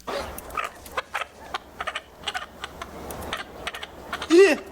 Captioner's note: chicken clucking